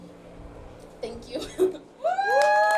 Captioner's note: chuckles; crowd applauding